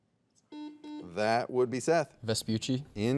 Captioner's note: soft beeping